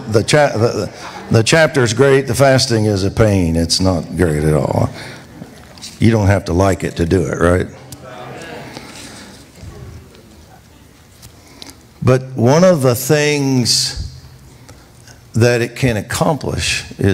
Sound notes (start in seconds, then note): 7.6 congregation reacts